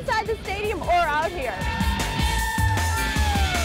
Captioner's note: screaming